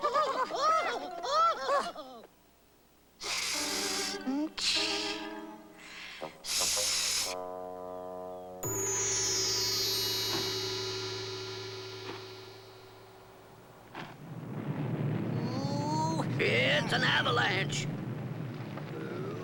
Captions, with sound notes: ( hissing ) ñ■ ( rumbling ) OOH! IT'S AN AVALANCHE!